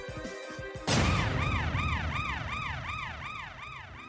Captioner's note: siren rings